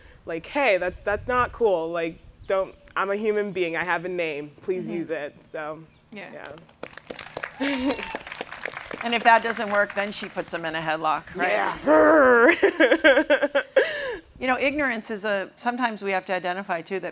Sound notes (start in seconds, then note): 6.4 applause; 11.5 growls and laughs